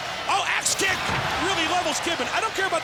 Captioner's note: crowd cheering